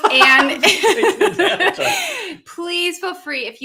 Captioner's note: laughing